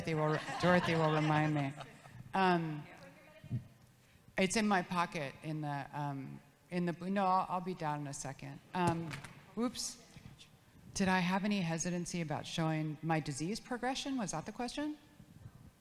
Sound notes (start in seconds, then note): 0.0 audience laughs; 5.9 phone clanks